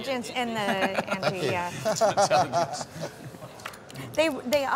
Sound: everyone laughs

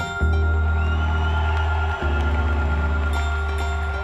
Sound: cheering and applause

